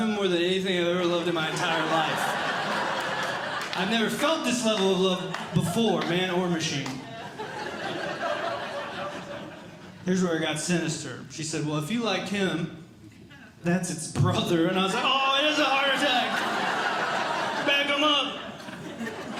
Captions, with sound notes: more than anything I've ever loved in my entire life. [Audience Laughing] I've never felt this level of love before. Man or machine. [Audience Laughing] Here's where it got sinister. She said, “Well, “if you like him, “that's its brother.” And I said, Ah it is a heart attack. [Audience Laughing] Bag him up.